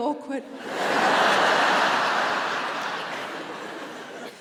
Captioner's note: audience laughing